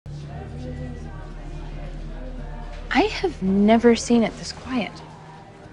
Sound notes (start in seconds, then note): 2.6 indistinct conversations